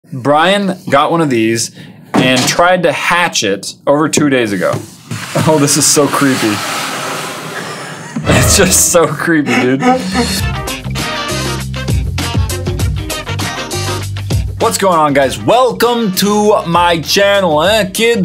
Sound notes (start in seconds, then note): 8.0 laughing